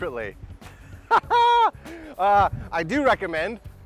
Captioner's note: laughs